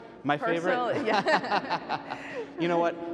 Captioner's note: laughs